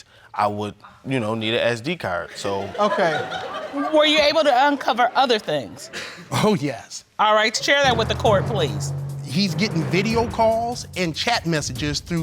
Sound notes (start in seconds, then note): 2.3 audience laughs